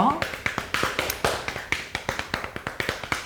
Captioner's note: slapping